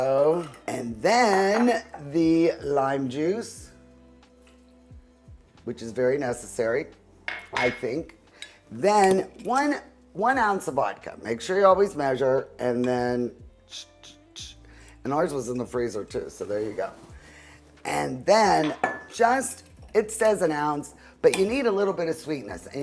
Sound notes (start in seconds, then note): 13.6 vocalizes